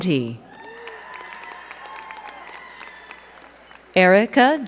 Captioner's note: crowd cheering and clapping